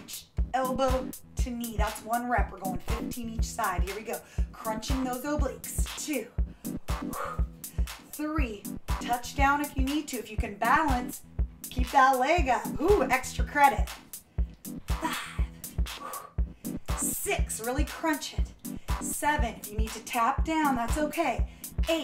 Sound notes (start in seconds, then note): 6.4 exhaling deeply